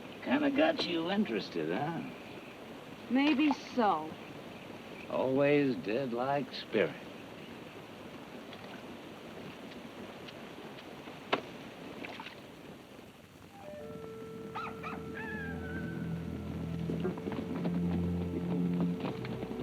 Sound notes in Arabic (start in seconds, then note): 14.4 صياح الديك; 16.6 موسيقى تنذر بالسوء